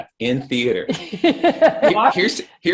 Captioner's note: both laugh